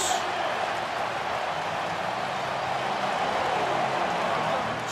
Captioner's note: cheering